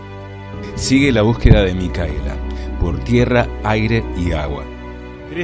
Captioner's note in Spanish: Voz en off